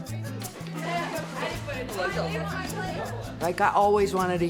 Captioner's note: busy chatter